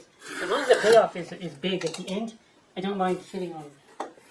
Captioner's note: none